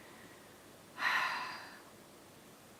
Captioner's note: sigh!